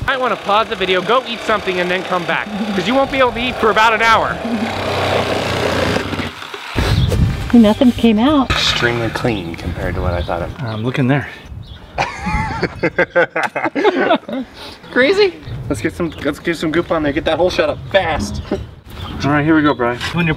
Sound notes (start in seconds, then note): 11.9 laughter